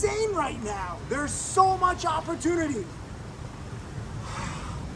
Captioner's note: sighs